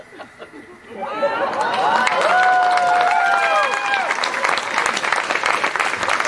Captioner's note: cheers